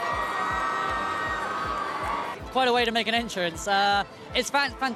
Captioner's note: people cheering